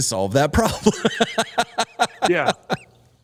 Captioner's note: laughter